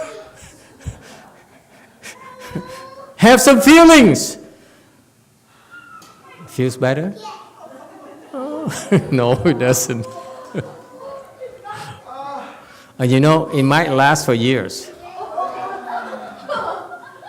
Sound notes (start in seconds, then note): 8.3 laughs; 14.3 laughs; 15.0 audience laughs